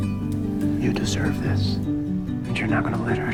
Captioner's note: voiceover